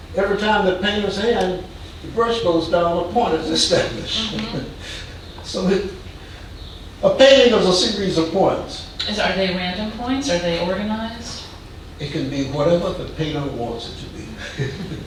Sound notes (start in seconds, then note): 4.0 woman agreeing; 14.3 man chuckling